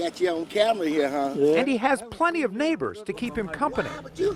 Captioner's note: laughter